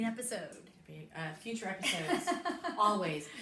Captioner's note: laughs